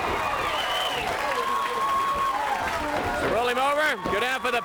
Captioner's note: crowd cheering